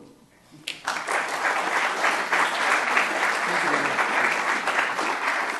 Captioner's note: audience applauding